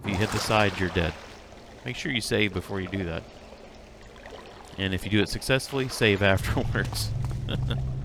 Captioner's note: laughs